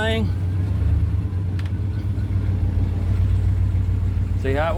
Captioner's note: engine Revving